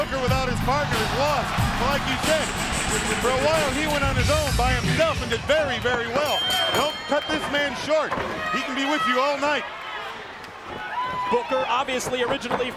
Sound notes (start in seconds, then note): 7.9 bell ringing